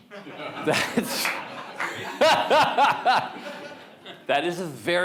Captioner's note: audience members laugh